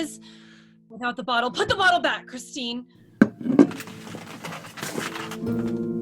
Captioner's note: door opens, feet enter